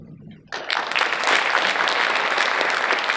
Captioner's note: audience applauding